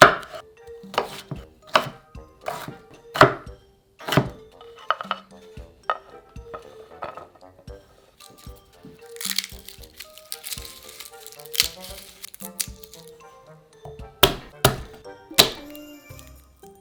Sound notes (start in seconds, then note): 8.1 garlic paper rustling; 14.2 knife smashing